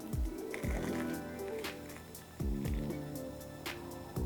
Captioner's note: food crunching